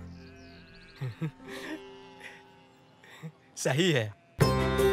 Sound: Chotu chuckles happily

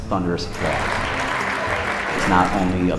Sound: applause

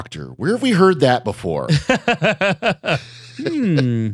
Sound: laughter

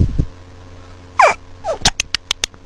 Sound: whimpers stupidly

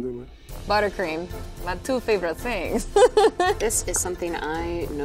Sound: laughs

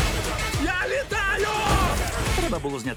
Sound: all scream

